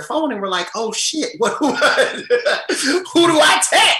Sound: laughs

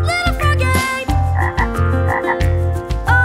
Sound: croaking

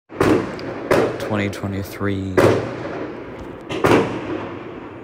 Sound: real fireworks in background

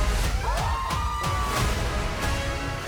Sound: screaming

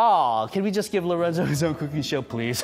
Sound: laughs

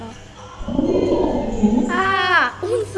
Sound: zombie growling

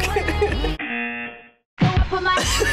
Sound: buzzer

